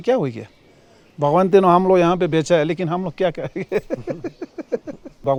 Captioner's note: laughs